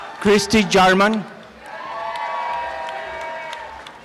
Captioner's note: applause and cheering